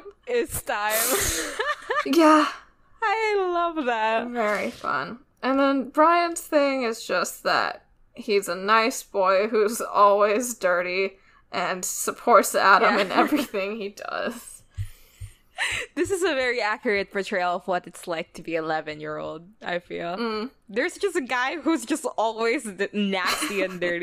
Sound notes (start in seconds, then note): 1.2 laughs; 14.9 laughs